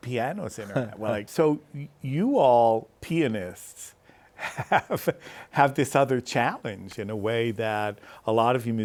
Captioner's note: laughs